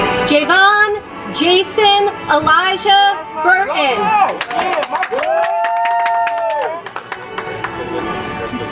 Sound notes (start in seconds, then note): 4.2 audience applauds